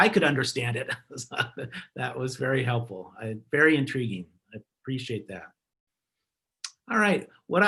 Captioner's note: laughter